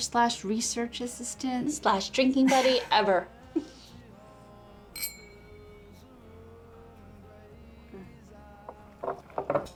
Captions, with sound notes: slash research assistant slash drinking buddy ever. (glasses clinking) (soft music)